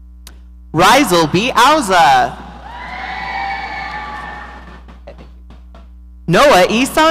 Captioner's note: audience cheering